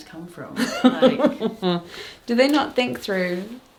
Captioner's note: laughs